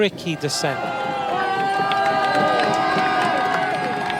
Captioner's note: crowd cheering